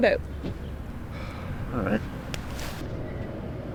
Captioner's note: sighs